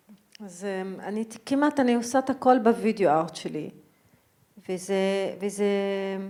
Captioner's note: speaking in foreign language